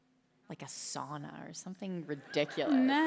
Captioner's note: laughter